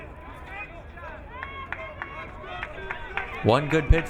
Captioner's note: crowd cheering